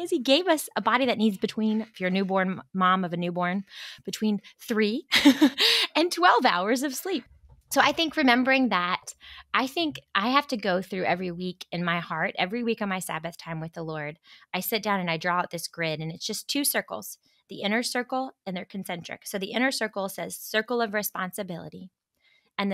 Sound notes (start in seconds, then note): 5.1 chuckles